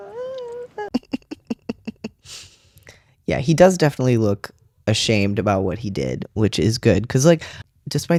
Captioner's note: laugh